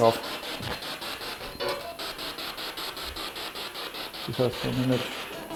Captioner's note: noise of the spiritbox in the background